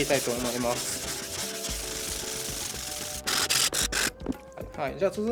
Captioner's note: sound of grinding